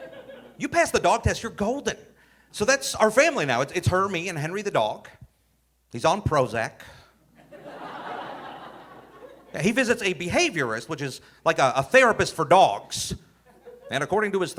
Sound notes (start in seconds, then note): 0.0 audience laughing; 7.4 audience laughing